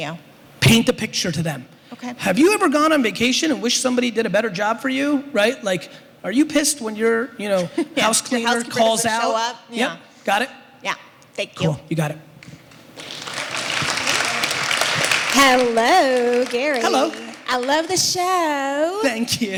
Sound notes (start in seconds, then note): 12.4 applause